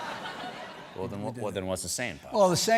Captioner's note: laughter